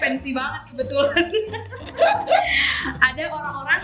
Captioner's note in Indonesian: laugh